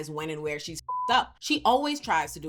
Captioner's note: beep